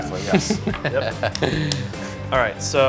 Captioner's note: laughing